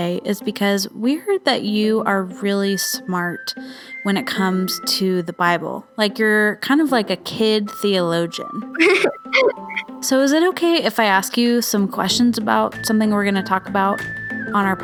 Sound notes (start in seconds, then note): 8.7 chuckles